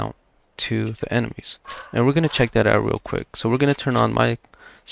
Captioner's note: good girls barking